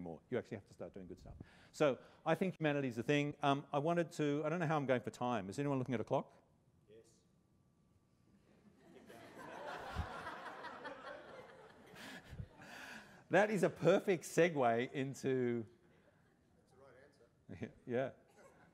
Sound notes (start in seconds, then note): 8.6 laughter